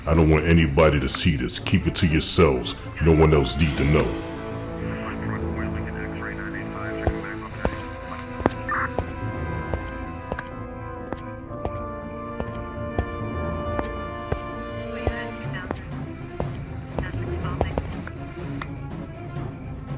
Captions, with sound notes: I don't want anybody to see this, keep it to yourselves. No one else need to know. (dramatic music continues) (police radio chatters) (footsteps fall)